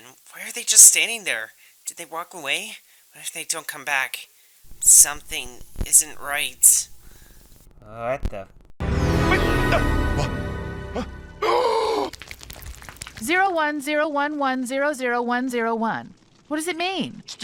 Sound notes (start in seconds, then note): 7.8 bender noises